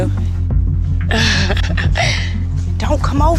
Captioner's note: laughs